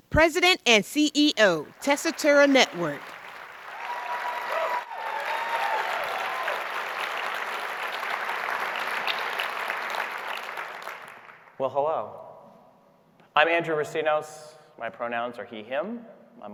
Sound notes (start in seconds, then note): 1.7 audience cheering and applauding